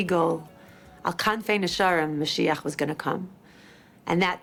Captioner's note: speaks in foreign language